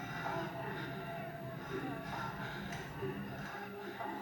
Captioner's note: people moaning